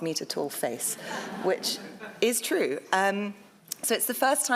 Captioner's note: audience laughs